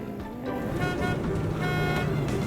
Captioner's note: trailer honking